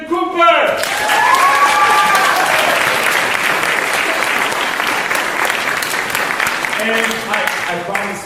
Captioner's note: applause